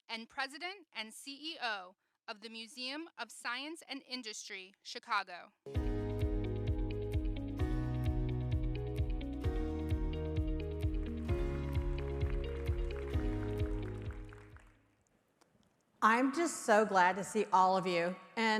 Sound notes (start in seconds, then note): 6.1 upbeat music; 12.8 audience applauding